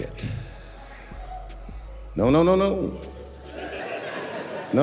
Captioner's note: audience members cheer